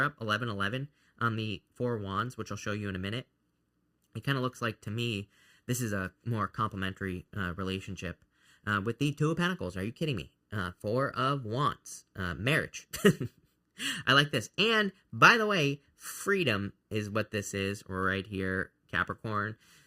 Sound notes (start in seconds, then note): 12.9 chuckles